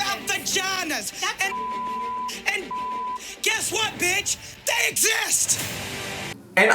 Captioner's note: beep